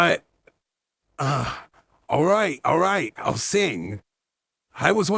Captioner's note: groans